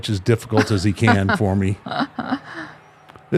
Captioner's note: laughing